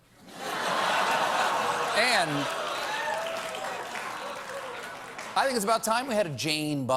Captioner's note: laughter